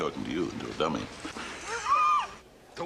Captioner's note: laughs